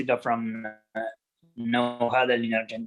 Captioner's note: audio cutting out